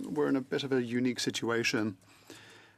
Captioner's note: speaking French